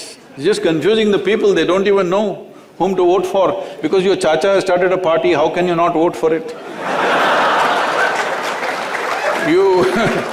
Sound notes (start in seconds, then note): 6.5 laughter; 6.6 laughs